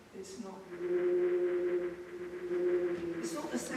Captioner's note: whale droning